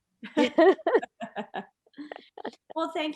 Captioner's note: laughs loudly